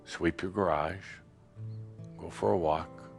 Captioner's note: none